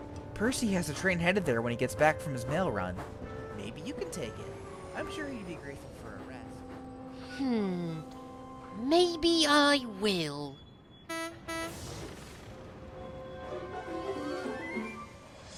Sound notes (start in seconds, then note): 11.0 philip honks horn